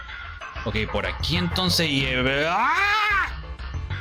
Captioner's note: angry scream